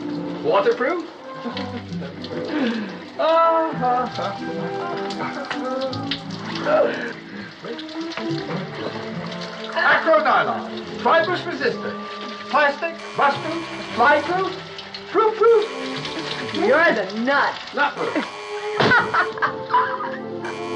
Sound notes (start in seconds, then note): 1.4 chuckling; 13.0 phone buzzing; 18.0 buzzing continues; 18.7 laughing